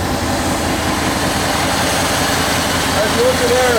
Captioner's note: loud motor sounds